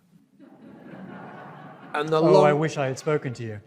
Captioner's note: audience laughs